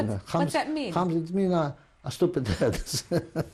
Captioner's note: non-english; laughs